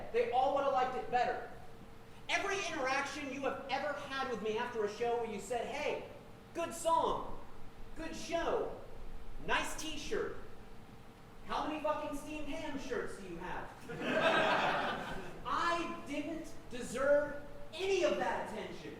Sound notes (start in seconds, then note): 13.8 audience laughing